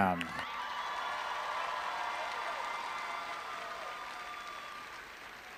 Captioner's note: all applauding and cheering